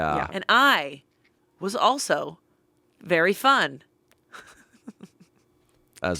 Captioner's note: laughs